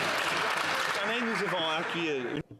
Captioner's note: applause